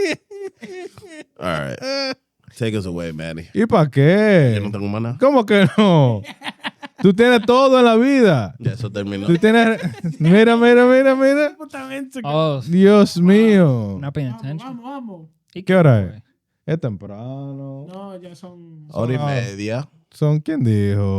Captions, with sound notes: All right, take us away, Manny. (Speaking In Foreign Language)